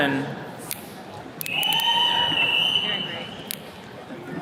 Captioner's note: attendees cheering